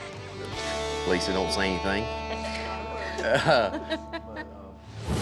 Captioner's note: everyone chuckles